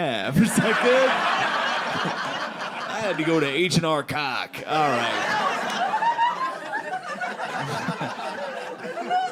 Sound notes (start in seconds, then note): 0.4 audience laughing; 4.7 audience laughing